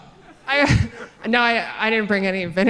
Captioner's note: audience chuckling